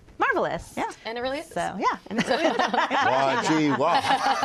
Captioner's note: laughter